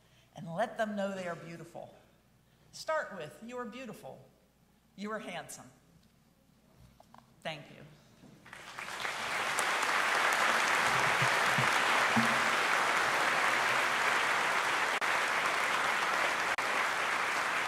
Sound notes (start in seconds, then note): 9.0 audience applauding